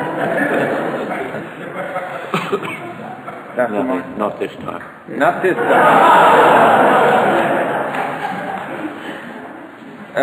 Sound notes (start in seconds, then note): 0.0 audience laughter; 5.4 audience laughter